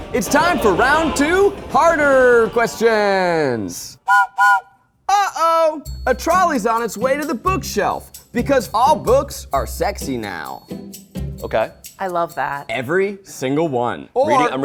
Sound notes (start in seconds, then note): 4.0 whistle blows